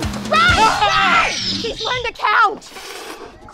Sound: Blue roars

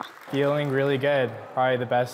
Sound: applause

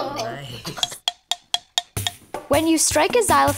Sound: hollow tapping

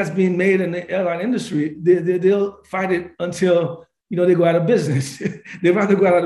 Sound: laughs

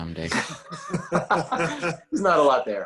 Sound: laughing

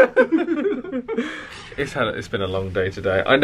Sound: they laugh

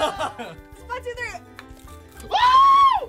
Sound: scorpion crunching; squeals

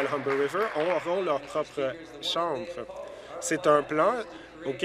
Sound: applause

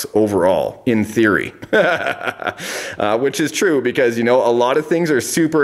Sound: laughs

